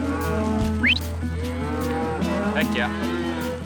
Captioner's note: whistles; cattle mooing